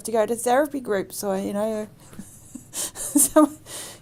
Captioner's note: both laugh